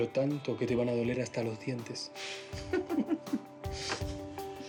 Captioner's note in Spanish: risas